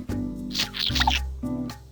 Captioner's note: squishing noises god why